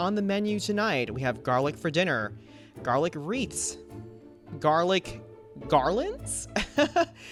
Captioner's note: laughs